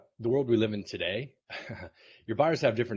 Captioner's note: laughs